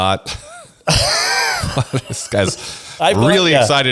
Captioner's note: laughs